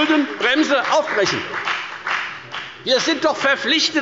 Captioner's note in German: Beifall bei der FDP